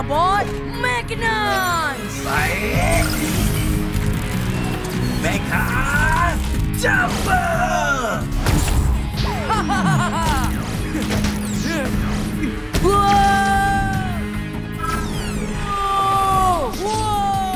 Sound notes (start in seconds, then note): 10.8 Amato laughing in joy; 14.8 Amato whooping